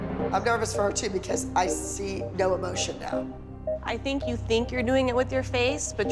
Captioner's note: none